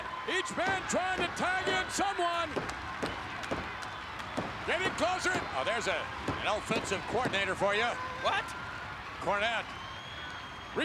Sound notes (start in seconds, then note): 2.4 Jim tapping mat; 3.0 Billy clapping